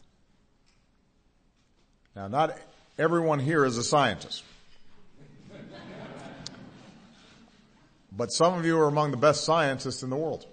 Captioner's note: laughter